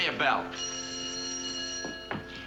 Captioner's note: bell rings